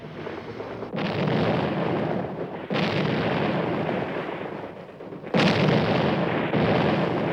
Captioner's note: explosions